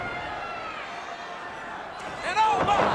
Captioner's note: crowd cheering